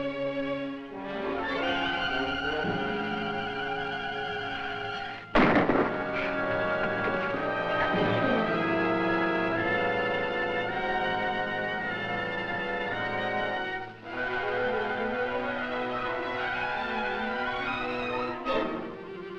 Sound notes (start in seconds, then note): 5.3 gunshot fires; 8.3 intense music